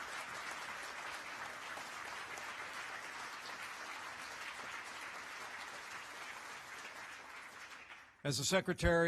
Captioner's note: applause